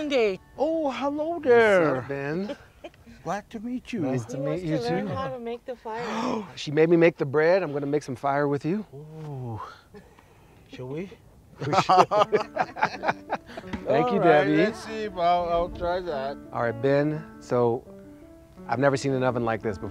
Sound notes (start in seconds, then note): 5.9 gasps; 11.5 all laughing; 11.6 chuckles